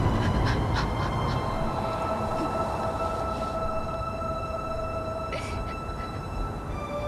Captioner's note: sobbing; dramatic orchestral music